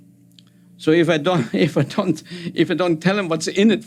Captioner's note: laughing